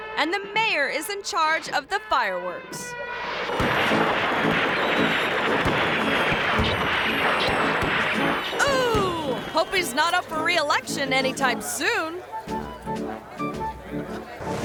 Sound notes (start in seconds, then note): 1.8 gentle trumpet music; 3.2 fireworks popping; 12.1 people chattering; 12.1 quirky music; 14.4 graphics whooshing